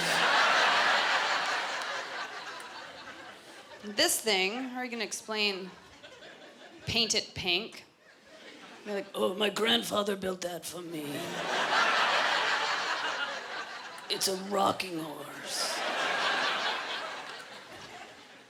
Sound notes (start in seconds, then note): 0.0 laughter; 3.7 regular voice; 9.7 gravely voice; 15.6 laughter